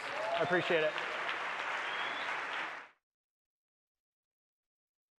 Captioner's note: audience applauds